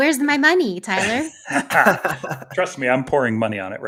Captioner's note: everybody laughing